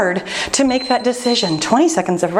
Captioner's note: timer beeping